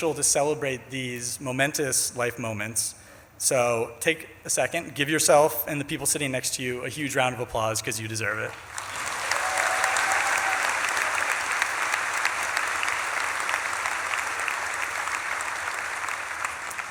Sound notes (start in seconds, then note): 8.4 audience claps and cheers